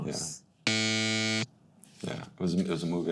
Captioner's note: buzzer buzzes